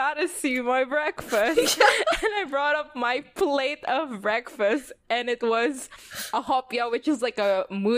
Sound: laughs

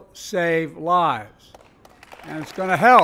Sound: applause

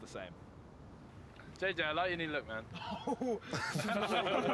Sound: laughter

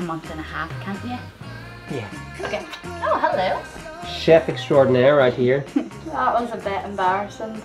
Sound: kiss

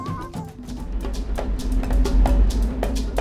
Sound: train passing

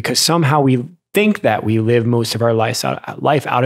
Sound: none

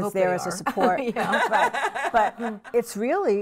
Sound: laughing

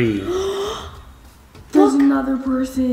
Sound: gasping

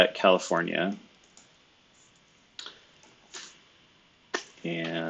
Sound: computer keyboard clicking

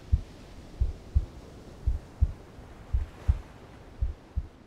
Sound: heart beats

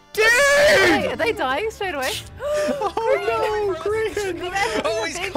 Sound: gasps

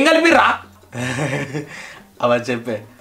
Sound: laughs

